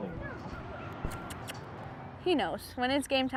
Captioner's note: kissing and clicking